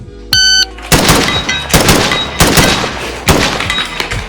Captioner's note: lofi music; shot timer; distant steel targets pinging; gunfire